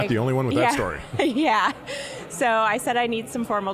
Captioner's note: laughing